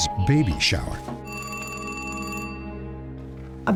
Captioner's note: phone ringing